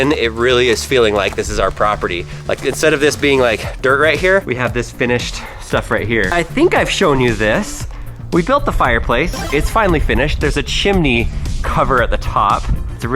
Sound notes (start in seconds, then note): 9.3 power up sound